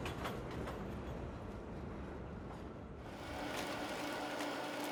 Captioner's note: machine whirring